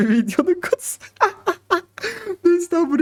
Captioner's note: laughs